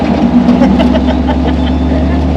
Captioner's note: laughter